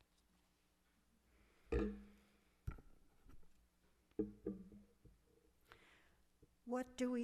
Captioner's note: no speech